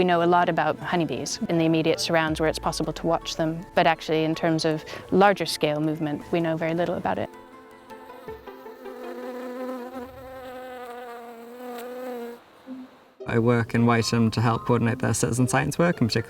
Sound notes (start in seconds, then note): 8.8 magical music; 9.7 bee buzzing